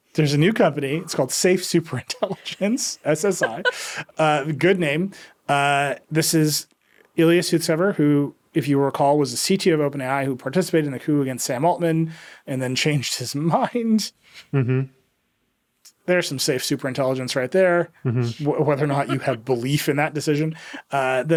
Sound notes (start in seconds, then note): 0.4 laughing; 4.6 laughing